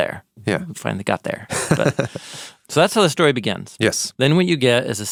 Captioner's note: person laughing